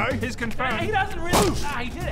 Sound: boooosch!

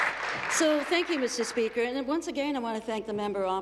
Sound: applause

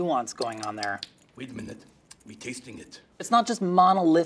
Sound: lips smacking

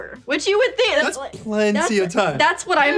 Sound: laughs

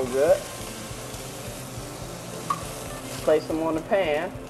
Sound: sizzling sound

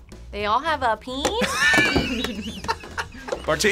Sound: laughs

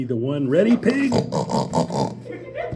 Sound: snort, snort, snort

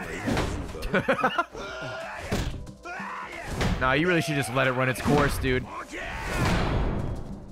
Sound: laughs

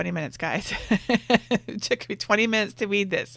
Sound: laughs

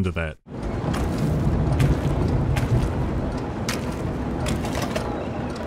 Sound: wet flopping

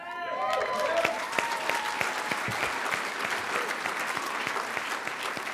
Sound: cheers

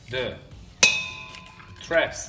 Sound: metal clanks

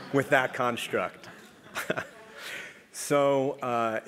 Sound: laugh

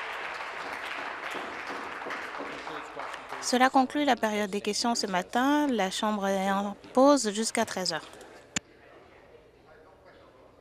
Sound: some Applause

